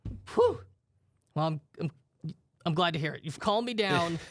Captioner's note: sighs